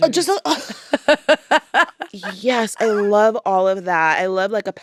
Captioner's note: laughs